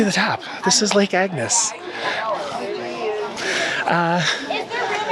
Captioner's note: group chattering